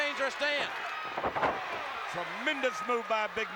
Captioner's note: applause